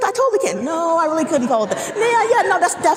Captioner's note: audience laughing